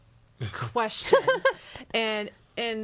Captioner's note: laughs